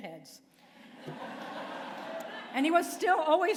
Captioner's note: laughter